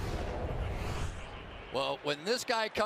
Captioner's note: swoosh